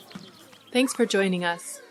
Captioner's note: audio clip of voices of kindergarteners on playground fades in